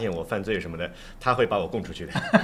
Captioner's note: laughter